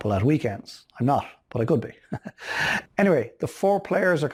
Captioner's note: laughing